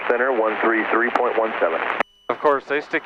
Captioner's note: man on radio mumbles; man On Radio